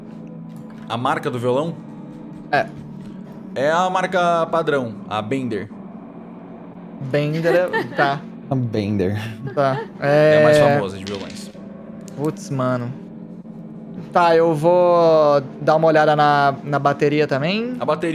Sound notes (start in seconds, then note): 7.3 Kalera laughs